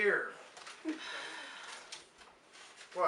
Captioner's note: stares at Jim and sighs